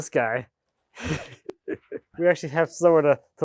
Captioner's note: speaker laughing